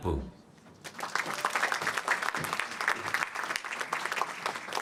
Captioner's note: applause